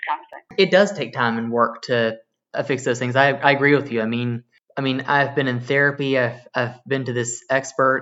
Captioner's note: on phone